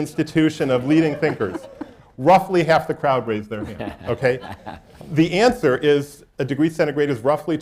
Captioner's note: laughter